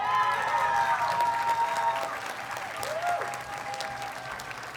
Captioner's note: audience cheers and applauds